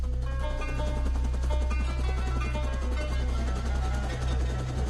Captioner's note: helicopter blades whirling